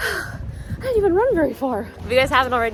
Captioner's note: exhales